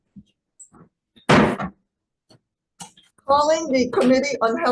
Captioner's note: gavel thudding